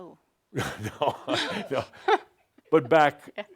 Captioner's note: chuckling